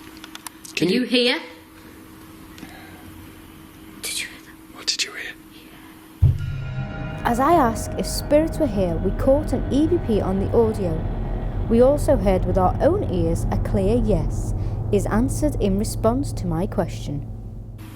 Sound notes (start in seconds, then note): 1.7 voice whispers